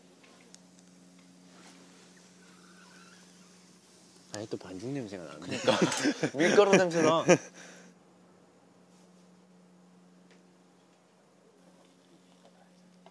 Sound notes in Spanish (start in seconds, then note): 0.8 Olfateando; 2.0 Olfateando 2; 5.4 Jajaja